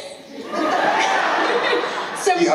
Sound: laughter

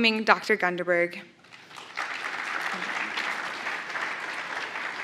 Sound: applause

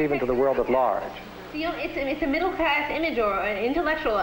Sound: chattering

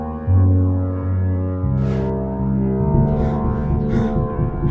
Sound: gasps

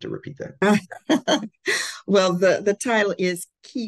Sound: laughs

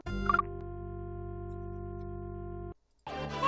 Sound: none

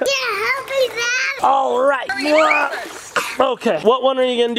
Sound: grunts

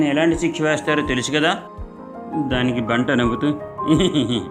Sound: laughs

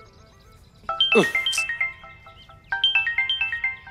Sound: mobile ringing

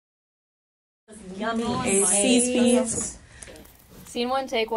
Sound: women chattering

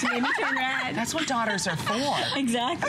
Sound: laughter

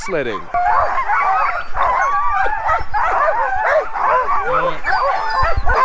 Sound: dogs barking, howling

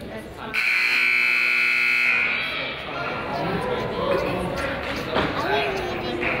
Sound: crowd chatters; buzzer honks

